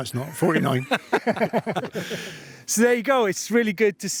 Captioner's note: both laughing